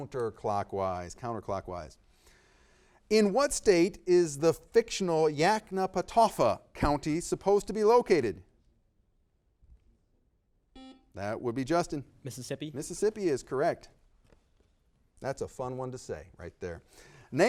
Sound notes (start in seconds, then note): 10.7 buzzer beeping